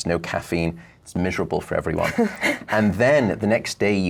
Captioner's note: laughs